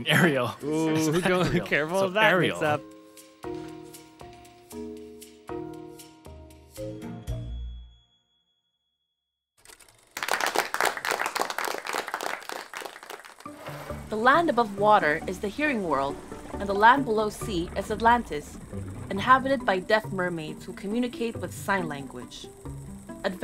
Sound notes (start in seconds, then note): 3.9 sigh; 9.6 movie reel sound; 11.6 applause